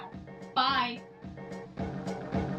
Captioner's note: further away from the mic